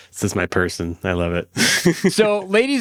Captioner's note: laughs